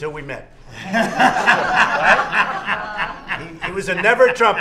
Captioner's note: laughter